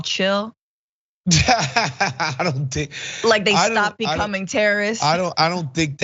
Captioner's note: laugh